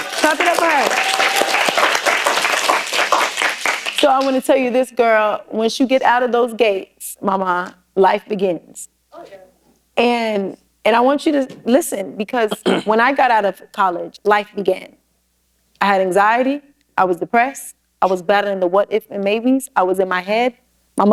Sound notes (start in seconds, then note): 2.3 applause